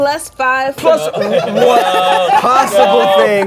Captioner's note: laughing